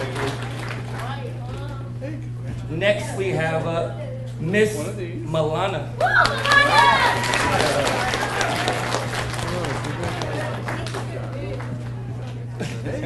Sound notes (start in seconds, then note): 6.0 claps; 6.0 audience applauds